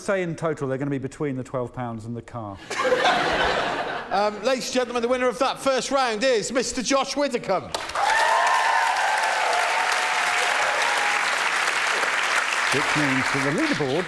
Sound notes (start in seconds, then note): 5.1 applause